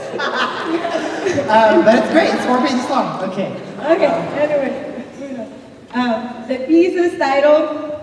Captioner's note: laughs